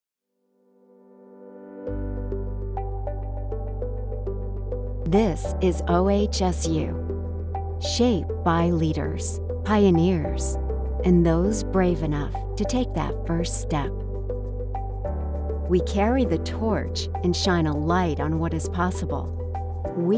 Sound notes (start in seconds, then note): 0.8 soft upbeat music; 5.2 voiceover